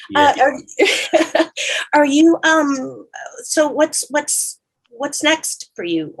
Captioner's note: laughs